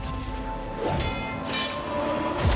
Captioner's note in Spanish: espadas chocan